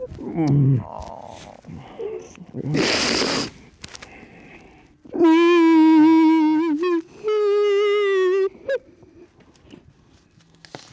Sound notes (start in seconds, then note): 3.1 sniffles; 5.6 crying